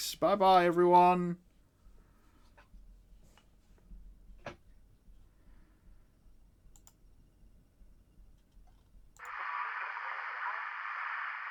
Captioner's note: radio static